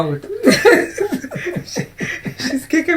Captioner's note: laughter